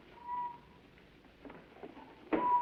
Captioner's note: whistling